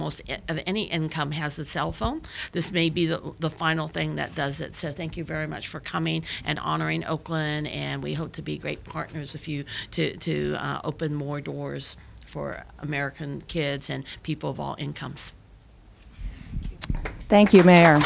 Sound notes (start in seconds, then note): 16.9 applause